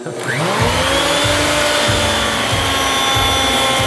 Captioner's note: router whirring